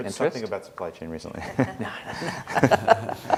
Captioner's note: laughing